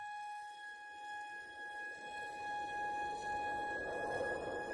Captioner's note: gentle music; wind whistling